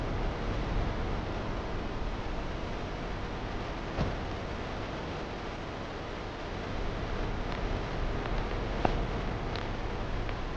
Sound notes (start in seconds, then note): 0.5 doors clicking open and closed